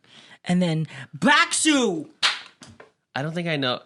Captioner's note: clap